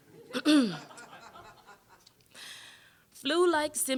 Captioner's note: audience laughing